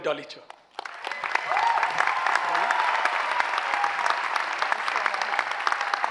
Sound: audience clapping and cheering

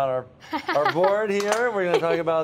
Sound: laughs

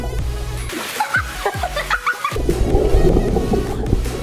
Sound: laughing

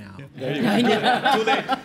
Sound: laughter

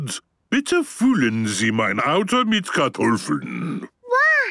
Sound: speaking German

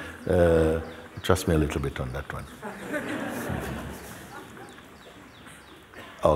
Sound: laughter

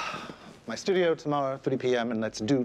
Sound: sighing

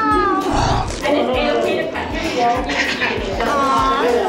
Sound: munching noises

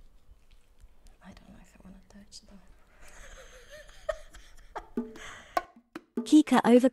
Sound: laughs

